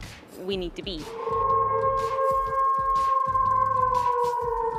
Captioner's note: wolf howls